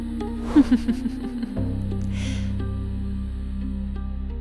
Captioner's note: laughs